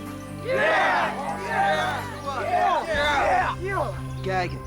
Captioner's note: cheering